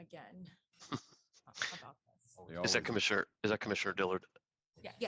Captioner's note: laughter